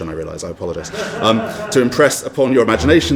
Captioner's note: audience laughs